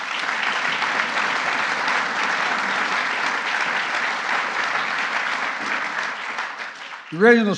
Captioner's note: applause